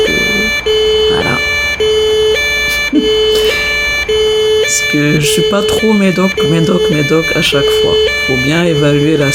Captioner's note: laughs